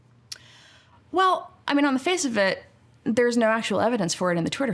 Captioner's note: none